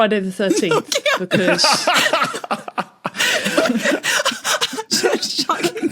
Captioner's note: laugh